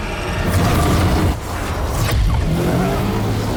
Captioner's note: intense rousing music; magic roaring; portal humming